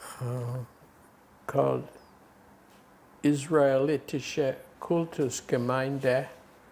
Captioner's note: german